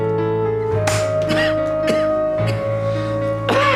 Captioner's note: coughing